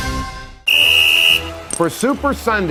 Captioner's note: whistle blows